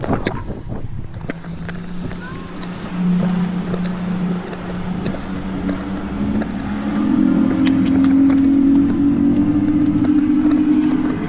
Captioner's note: boat engine revs